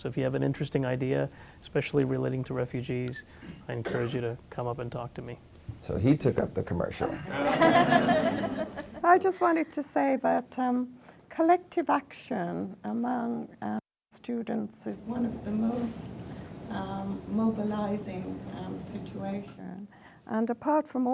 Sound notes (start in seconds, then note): 7.0 laughs